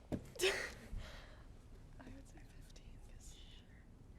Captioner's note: chuckles